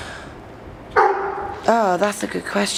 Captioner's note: dog barking